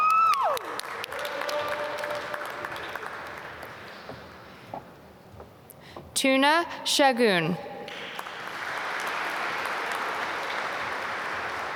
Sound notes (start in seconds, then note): 0.0 applause; 7.8 applause